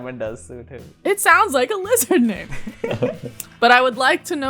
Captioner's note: laughter